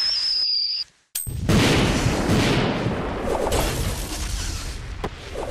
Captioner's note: whistling and explosion